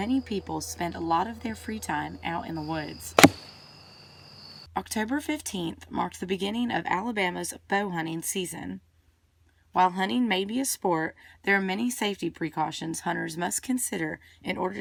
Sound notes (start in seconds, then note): 3.2 NATS: arrow hitting target